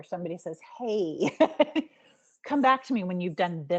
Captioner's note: giggling